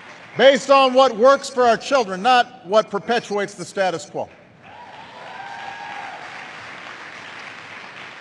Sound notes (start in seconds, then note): 4.6 applause